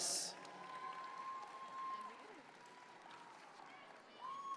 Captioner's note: audience members cheer